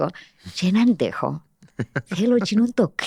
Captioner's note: he laughs